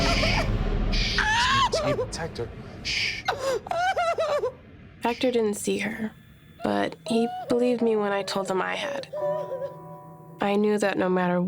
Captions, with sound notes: It's me, it's Hector. [crying] Hector didn't see her. But he believed me when I told him I had. I knew that no matter what I did,